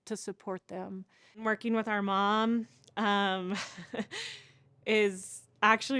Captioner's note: chuckles